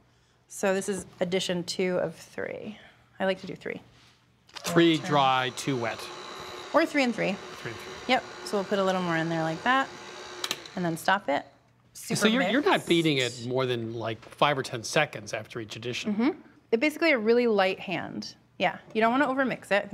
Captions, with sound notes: So this is addition two of three. I like to do three. - Three dry, two wet. (mixer whirring) - Or three and three. - Three and three. - Yep, so we'll put a little more in there like that. And then stop it. (mixer stops) - So you're not beating it more than, like, five or ten seconds after each addition. - Mm-hmm. Basically a really light hand. Yeah, you don't want to overmix it.